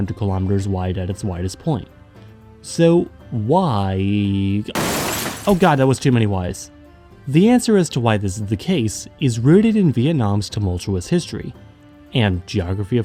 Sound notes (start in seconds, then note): 4.7 crash